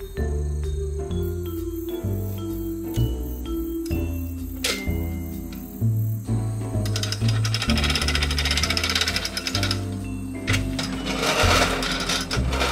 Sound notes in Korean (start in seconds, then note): 7.5 잔디 깎는 기계 소리